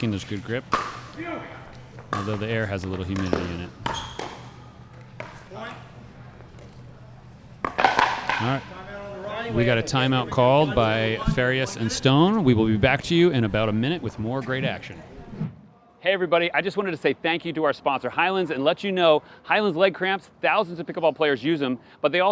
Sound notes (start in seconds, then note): 7.6 paddle clatters